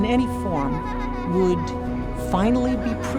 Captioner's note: child laughing